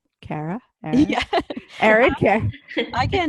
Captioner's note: laughter